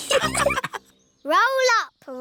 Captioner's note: all laughing